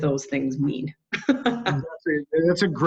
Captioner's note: chuckle